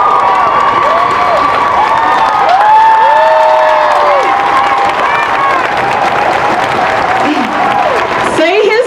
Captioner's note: applause